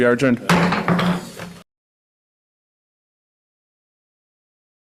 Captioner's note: gavel thumping